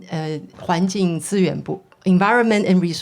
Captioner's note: speaking foreign language